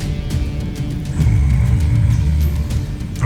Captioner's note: theme music playing; guttural roar